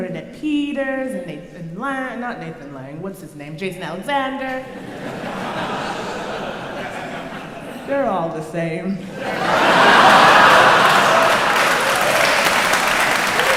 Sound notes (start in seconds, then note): 4.6 crowd laughs; 9.0 crowd cheering